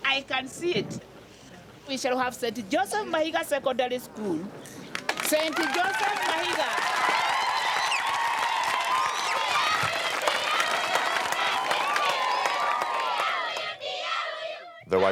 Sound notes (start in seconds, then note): 6.9 crowd cheering; 10.2 children singing in native tongue